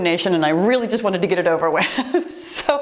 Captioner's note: laughs